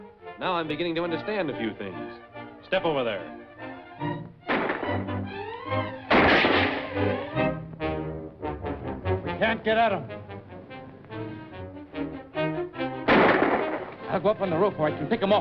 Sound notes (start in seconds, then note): 4.4 gunshots; 13.0 gunshot